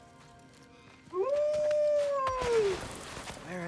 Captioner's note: howl